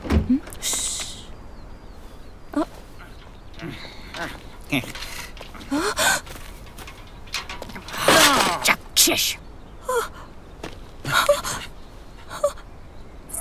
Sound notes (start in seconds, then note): 0.0 door clunks; 2.5 people murmuring; 5.6 woman gasps; 6.6 ironing board clatters; 9.0 woman speaking in foreign language; 10.2 man panting; 10.2 woman whimpering